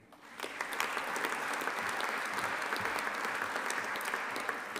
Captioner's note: audience applauding